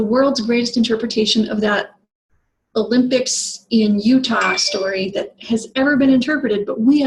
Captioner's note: phone chirps